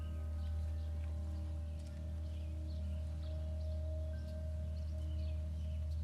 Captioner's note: birds chirping; soft melodic music